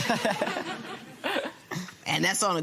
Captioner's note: laughter